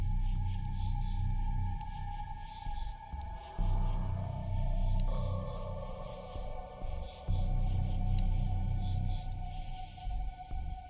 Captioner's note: wind, crickets, and ominous music